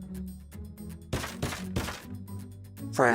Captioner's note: bang bang bang